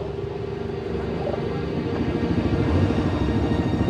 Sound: motorcycles drone

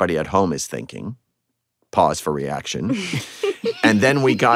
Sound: laughter

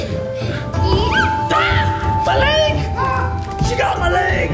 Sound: screams

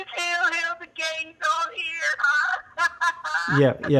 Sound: laughs

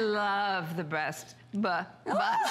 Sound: laughter

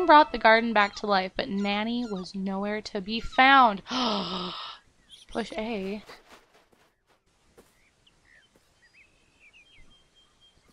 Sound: gasps

